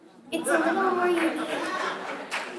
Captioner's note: laughter